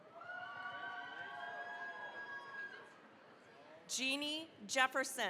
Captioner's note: cheering, applause